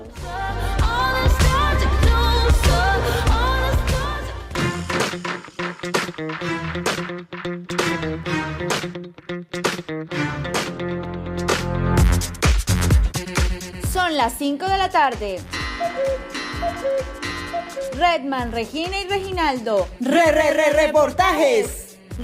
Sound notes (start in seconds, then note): 4.5 header music; 15.4 clock sound effect